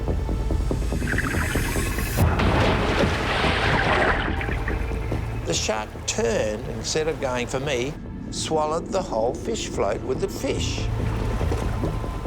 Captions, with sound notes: (thump) The shark turned and instead of going for me, swallowed the whole fish float with the fish.